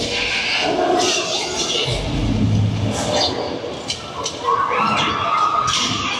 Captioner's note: dinosaurs growling continues